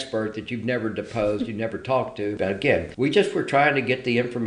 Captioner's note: laughs